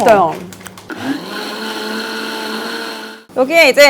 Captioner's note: grind grind